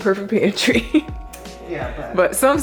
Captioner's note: laughing